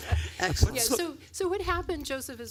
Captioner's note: laughter